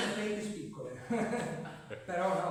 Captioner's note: laughter